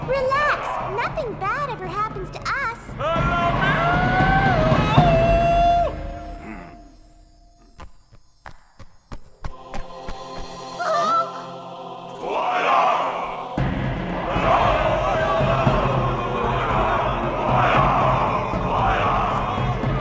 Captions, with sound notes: - Relax! Nothing bad ever happens to us! (man yelling) (chanting)